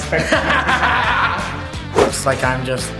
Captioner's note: dad laughs